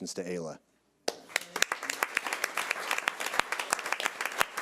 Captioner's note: audience applause